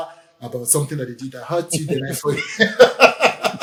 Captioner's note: laughs